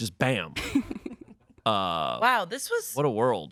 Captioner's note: laughs